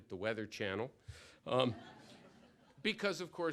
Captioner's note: laughter